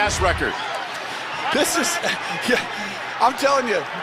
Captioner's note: chuckles